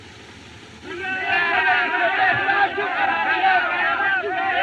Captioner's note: shouting